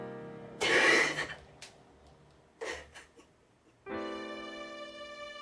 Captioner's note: Margaret crying; gentle music